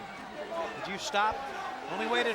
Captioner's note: crowd clamoring